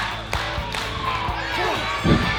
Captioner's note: crowd clappping and cheering; grunting sound